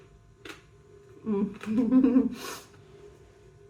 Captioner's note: chuckling